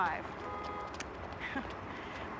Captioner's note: laughs